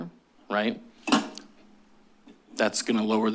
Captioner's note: thud